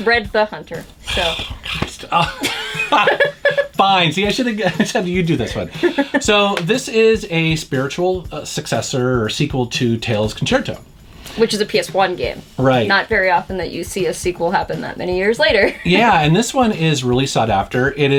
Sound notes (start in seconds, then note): 1.0 laughs